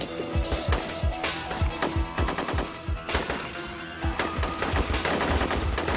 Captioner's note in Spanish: Disparos